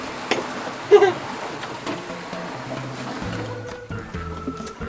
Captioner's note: laughs